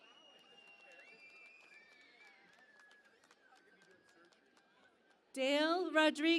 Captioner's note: cheering and Applause